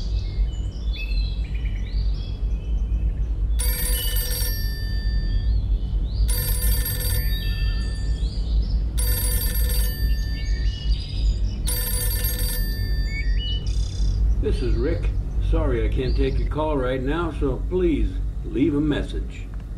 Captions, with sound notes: (telephone ringing) - This is Ric, sorry, I can't take your call right now, so please leave a message.